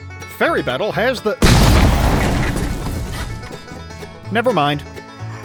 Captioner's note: kaboom